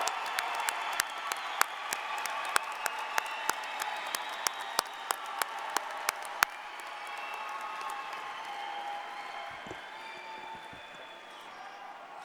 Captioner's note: applause